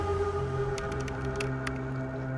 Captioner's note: computer keys clicking